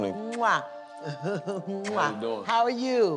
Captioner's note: laughs, blows kiss